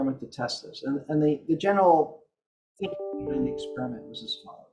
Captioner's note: computer sound